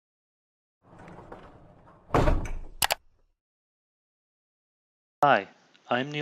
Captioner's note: gears whirring and clicking